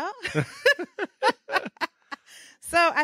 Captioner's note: laughing